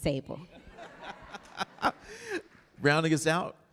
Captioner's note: all laughing